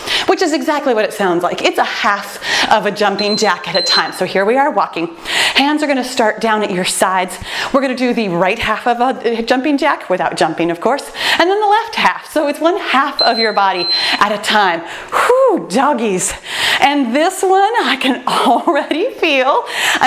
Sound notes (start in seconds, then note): 3.0 timer beeps; 13.1 timer beeps